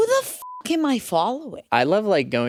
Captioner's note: beep